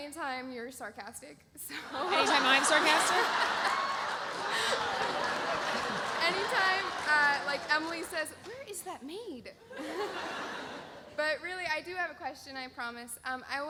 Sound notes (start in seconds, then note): 1.8 laughs; 3.4 audience laughs; 9.7 audience laughs